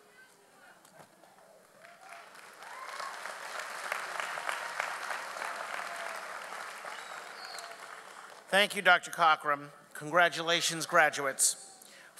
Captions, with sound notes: (audience applauds) - Thank you, Dr. Cockrum. Congratulations graduates.